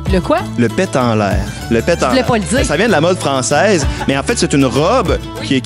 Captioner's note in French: rires